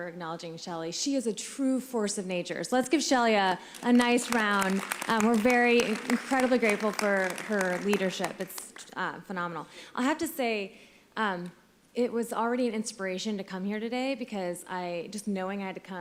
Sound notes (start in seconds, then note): 9.4 applause